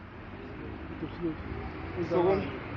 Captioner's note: passerby speaks in foreign language